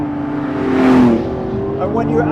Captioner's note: car whizzing past